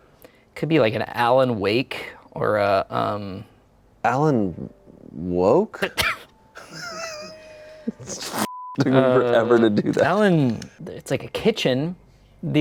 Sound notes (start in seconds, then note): 6.6 everyone laughs; 8.4 beep